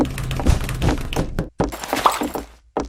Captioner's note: knocks on Her own door